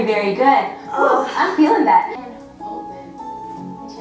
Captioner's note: grunts